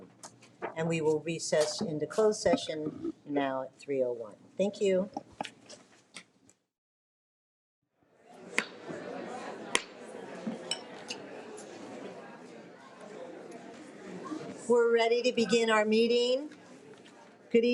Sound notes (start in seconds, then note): 8.5 audience chattering